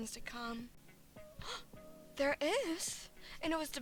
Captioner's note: gasp